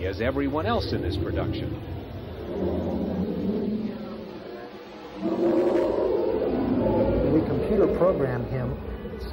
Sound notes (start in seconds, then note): 5.0 dragon howls